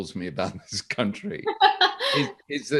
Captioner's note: both laugh